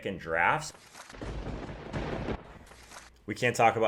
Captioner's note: paper ripping; lightening and thunder; paper ripping